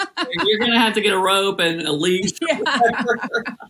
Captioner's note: laugh